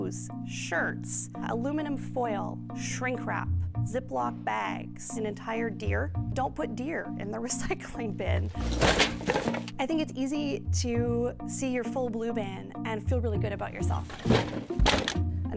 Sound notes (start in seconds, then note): 8.4 rustling